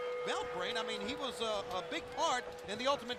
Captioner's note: bell ringing